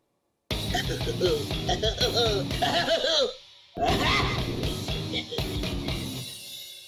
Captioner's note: nerdy laugh